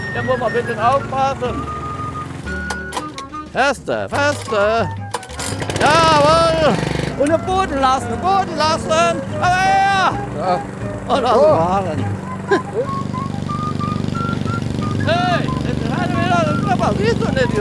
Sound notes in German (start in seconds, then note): 5.0 Motor springt an; 12.7 Heitere Musik